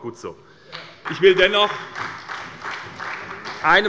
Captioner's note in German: Beifall bei der SPD